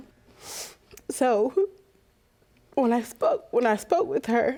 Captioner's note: voice breaking